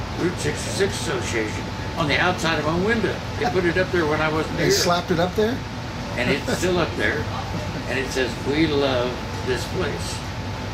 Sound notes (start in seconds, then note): 3.4 laughing